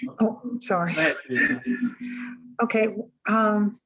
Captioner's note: woman Speaking